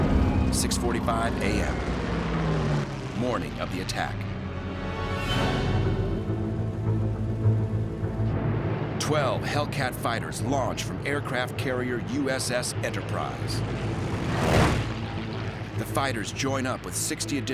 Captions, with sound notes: 6:45 AM. Morning of the attack. 12 Hellcat fighters launch from aircraft carrier USS Enterprise. [planes whirring] The fighters join up with 60 additional Hellcats